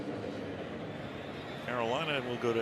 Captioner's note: pa announcement